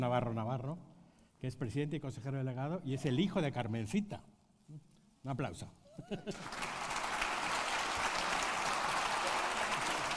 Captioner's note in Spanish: Aplausos